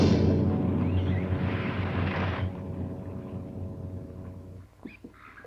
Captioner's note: dynamite sizzles